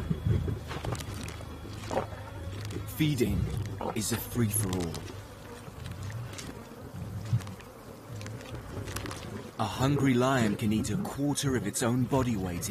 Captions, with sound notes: (flies buzz) Feeding is a free for all. A hungry lion can eat a quarter of its own body weight